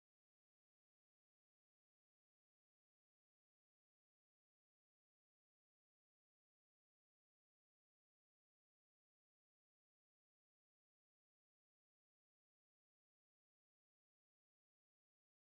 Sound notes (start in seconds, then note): none